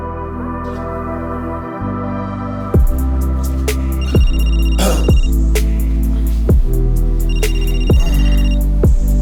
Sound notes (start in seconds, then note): 4.4 phone rings